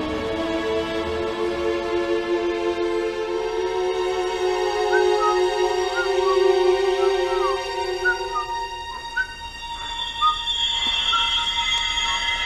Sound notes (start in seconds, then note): 4.8 Paul whistles; 4.8 suspenseful music